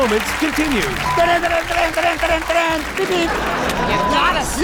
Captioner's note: vocalizing a dramatic tune